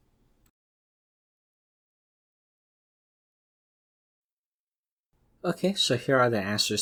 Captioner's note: pause